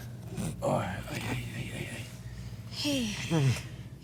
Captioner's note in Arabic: يشتكي